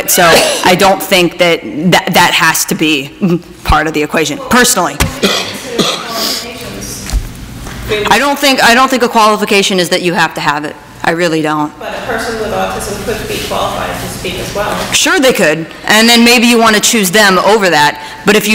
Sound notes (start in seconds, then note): 5.2 faintly speaking